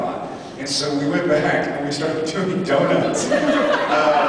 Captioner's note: laughing; laughs